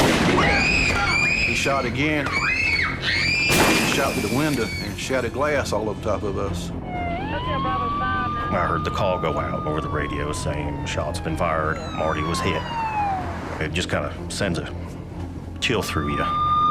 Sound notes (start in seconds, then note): 0.3 screams; 6.7 siren wails